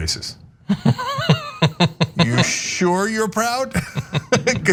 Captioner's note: laugh